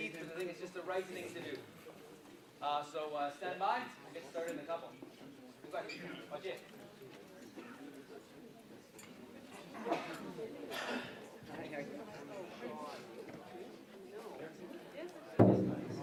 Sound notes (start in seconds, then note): 6.5 people chatting